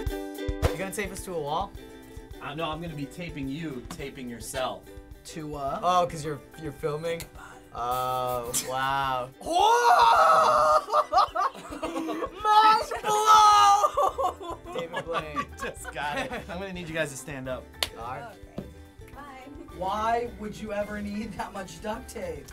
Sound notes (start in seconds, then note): 7.4 whispering